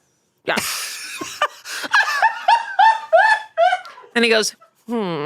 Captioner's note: laughs